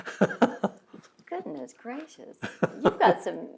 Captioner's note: laughs